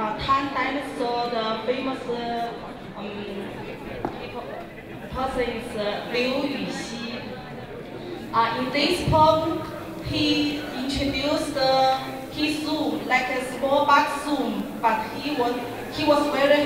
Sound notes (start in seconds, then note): 8.7 crowd cheering; 16.4 speaking in Mandarin